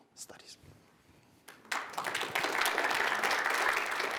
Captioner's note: applause